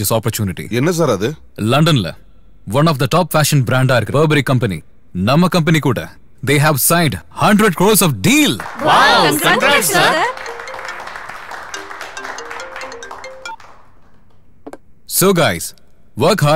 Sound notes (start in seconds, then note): 10.3 crowd cheering